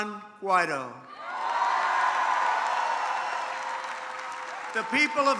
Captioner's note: applause